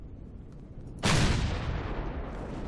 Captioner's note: explosion; rockets firing